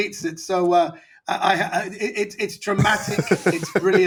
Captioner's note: laughing